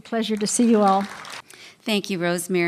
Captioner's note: applause